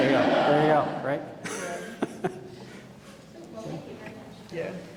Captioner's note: audience laughing